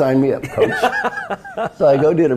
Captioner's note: laugh